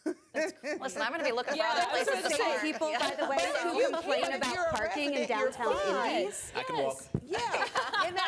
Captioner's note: laughs